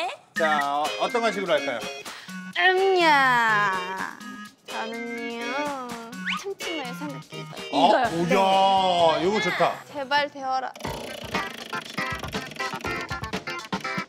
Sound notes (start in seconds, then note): 10.7 roulette spins powerfully